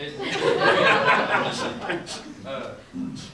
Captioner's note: audience laughs